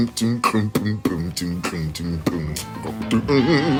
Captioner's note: beatbox